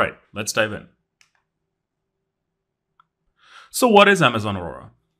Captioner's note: remote clicking